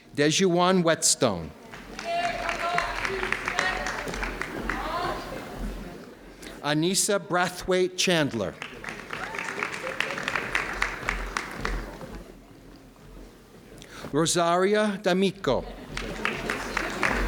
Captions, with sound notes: Deshawn Whetstone (audience cheering) Anisa Brathwaite-Chandler Rosaria Domico